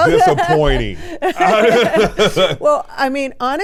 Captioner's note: everyone laughs